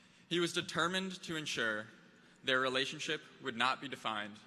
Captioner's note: none